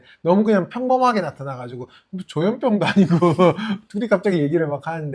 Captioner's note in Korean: 웃음